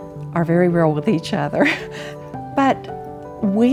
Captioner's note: chuckles